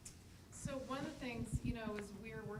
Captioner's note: voiceover